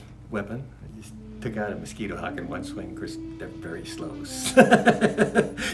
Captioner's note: laughs